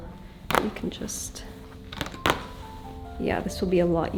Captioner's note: stitches ripping